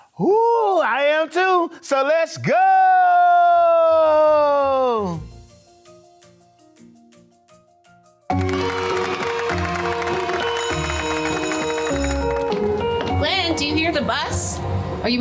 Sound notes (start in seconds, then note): 5.4 light upbeat music; 8.3 students cheering and applauding; 9.2 bell ringing